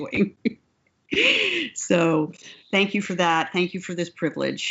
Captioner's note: laughs